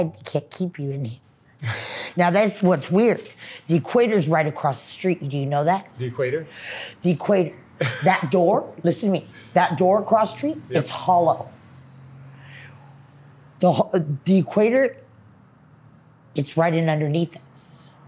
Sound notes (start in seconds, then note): 7.8 laughs